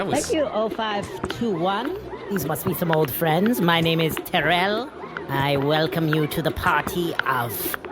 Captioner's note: none